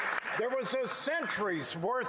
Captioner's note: some Applause